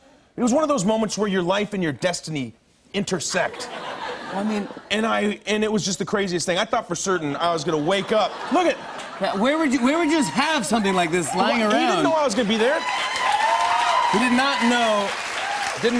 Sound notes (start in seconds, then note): 3.4 laughter; 12.4 cheers and applause